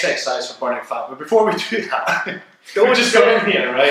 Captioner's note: chuckle